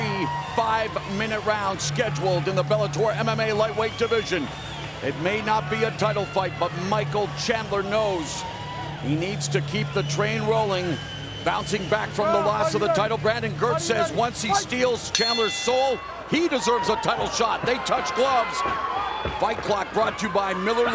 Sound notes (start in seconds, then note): 15.0 bell rings